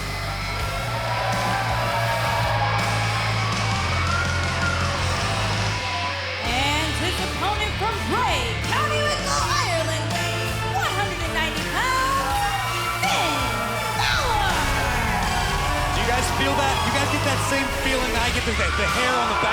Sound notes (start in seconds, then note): 0.0 fans chanting; 0.9 cheers and applause